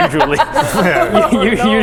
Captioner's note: Habsburg laugh